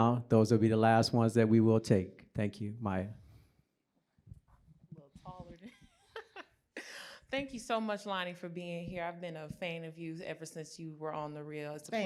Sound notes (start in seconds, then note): 5.6 laughter